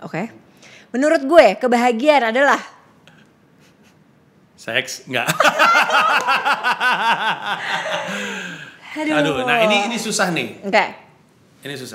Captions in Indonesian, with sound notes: Menurut gue kebahagiaan adalah .. / Sex.. enggak [ketawa] Aduh ini susah ni / Oke / Ini susah